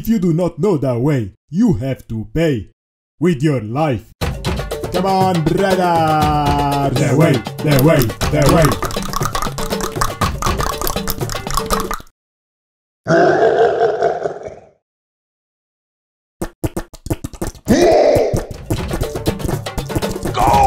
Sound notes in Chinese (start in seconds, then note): 4.2 召喚bgm再次響起; 11.3 大量彈舌